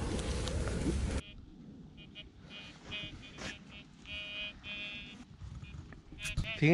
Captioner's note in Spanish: sonidos intermitentes del detecor de metales